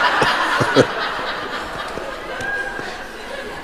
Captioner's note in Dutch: gelach